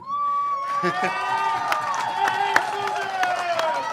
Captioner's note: cheers and applause